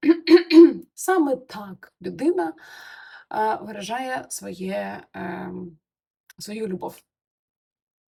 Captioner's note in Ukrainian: прочищення горла